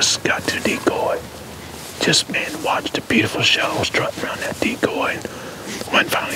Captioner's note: whispering